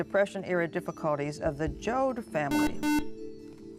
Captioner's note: buzzer